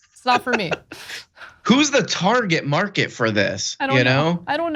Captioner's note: laugh